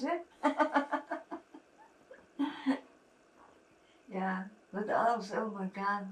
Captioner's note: laughing